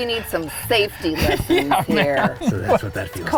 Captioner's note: laughter